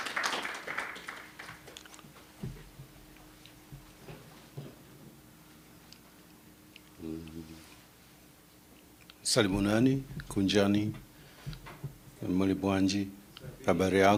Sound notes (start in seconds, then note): 10.0 non-english speech